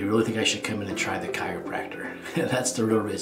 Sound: chuckles

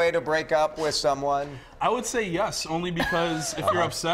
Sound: laughter

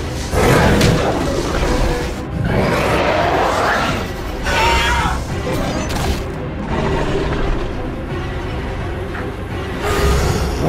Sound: screeching and roaring sounds

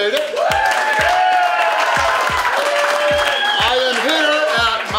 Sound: audience cheers and applauds

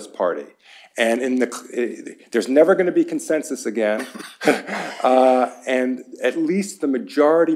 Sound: laughter

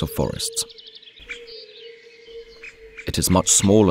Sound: sounds of nature

